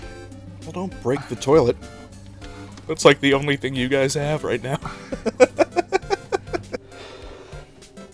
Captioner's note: giggle